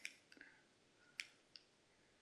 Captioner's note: clicks